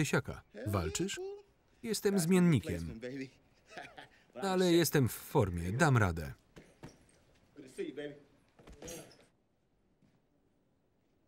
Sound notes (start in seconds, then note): 3.6 laughing